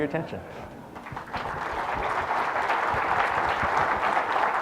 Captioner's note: audience applauds